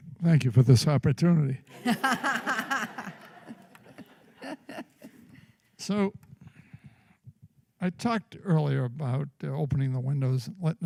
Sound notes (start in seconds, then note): 1.7 laughter